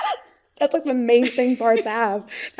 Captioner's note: laughing